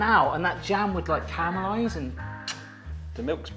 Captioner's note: kisses